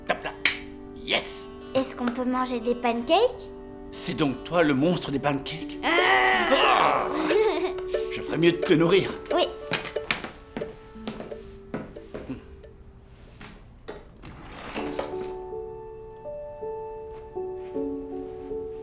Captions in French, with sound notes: - Un high-five ? Joli ! - On peut manger des pancakes pour le dîner ? - Ai-je créé un monstre à crêpes ? (grogne) (rires) Je suppose que je ferais mieux de te nourrir alors. (musique douce)